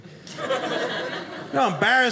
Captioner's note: audience laughing